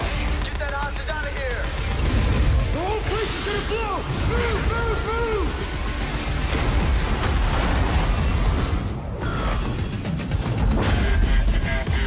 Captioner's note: explosion